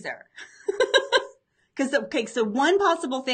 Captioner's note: laughs